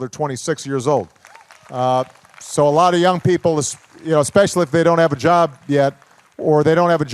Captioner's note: applause